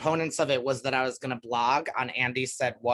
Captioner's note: none